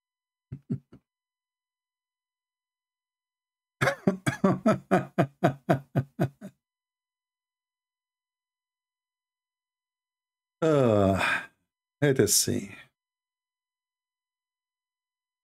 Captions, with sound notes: [Ketawa] eh Mari kita lihat